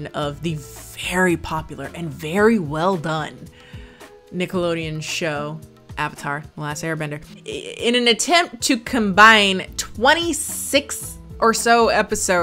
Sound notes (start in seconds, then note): none